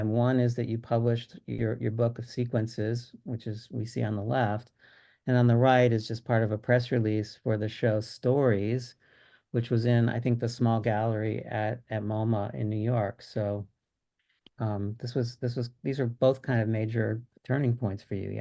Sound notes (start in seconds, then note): none